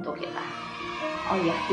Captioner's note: kids cheering